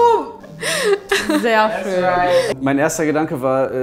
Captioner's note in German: Lachen